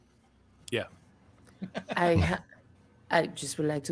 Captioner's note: person laughing